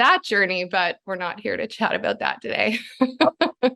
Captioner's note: laughs